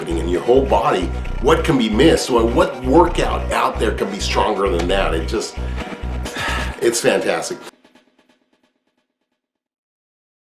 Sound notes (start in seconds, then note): 6.3 sigh; 8.1 background music